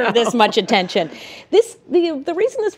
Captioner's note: laughter